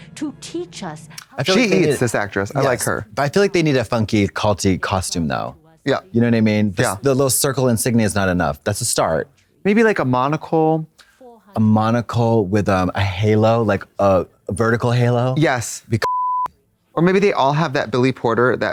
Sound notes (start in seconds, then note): 16.0 beep